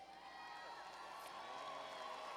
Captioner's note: cheers and applause